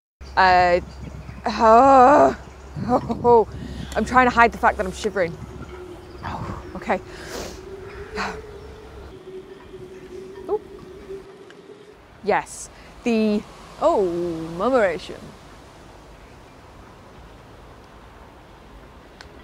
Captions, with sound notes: Uhh.. [Groans] Ohhh! I'm trying to hide the fact that I'm shivering. [Sharp Exhale] Okay! Oop! Yes! The… Ohhhh murmuration!